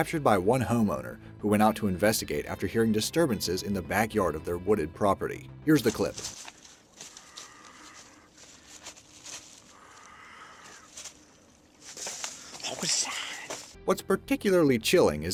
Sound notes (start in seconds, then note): 5.7 leaves rustling